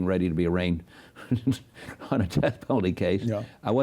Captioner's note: chuckles